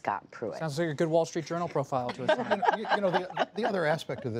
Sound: laughter

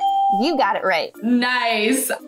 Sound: bell rings

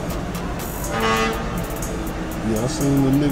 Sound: horn honking

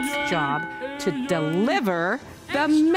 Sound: bell ringing

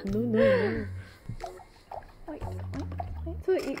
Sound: splash splash

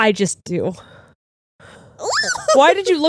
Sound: squeals

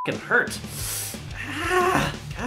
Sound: winces

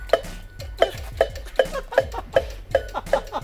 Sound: laughing

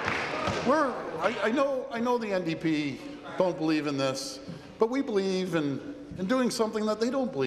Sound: applause

